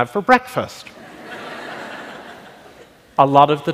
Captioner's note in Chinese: 笑聲